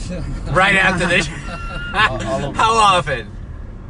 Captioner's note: laughing